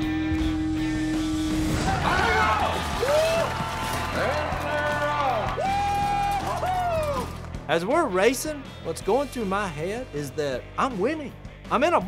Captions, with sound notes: [all shouting] - And they're off. - Whoo-hoo-hoo! - As we're racing, what's going through my head is that I'm winning. I'm in a box.